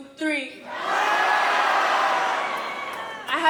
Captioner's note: shouting